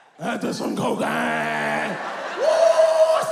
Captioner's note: exclaims; audience laughs